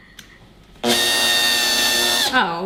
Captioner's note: drills loudly